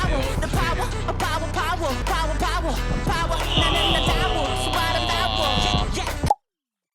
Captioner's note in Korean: 감탄